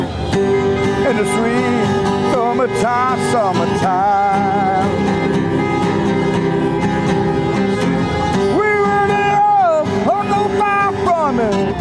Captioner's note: crowd cheering